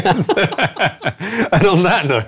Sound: laughing

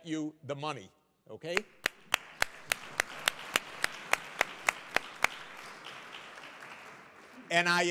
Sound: applause

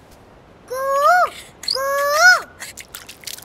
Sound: mimicking cuckoo's voice

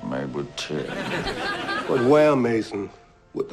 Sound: laughter

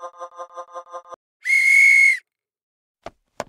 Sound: whistles

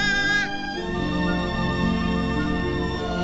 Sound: bleating

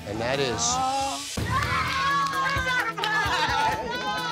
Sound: screams

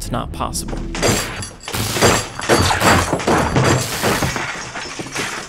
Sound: metal clanging

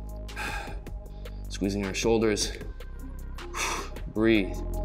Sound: exhales loudly

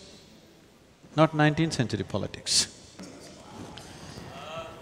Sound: laughs

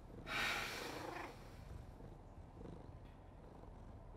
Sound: Jazzy purrs

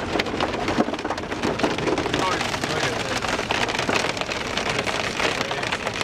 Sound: hail hitting window

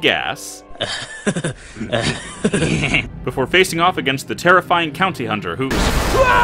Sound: Beavis & Butthead laugh

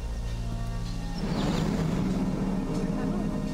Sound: woosh

